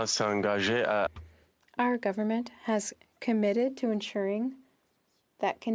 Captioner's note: speaking French